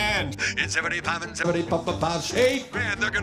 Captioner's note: rapid auctioneering